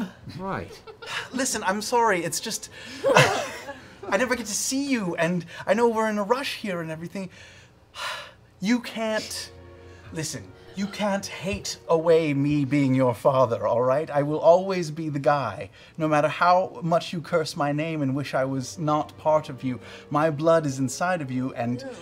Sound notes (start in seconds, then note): 2.8 laughing